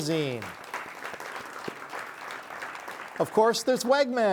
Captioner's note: audience applauding